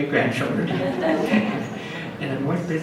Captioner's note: audience laughs